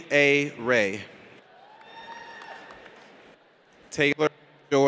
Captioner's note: audience cheers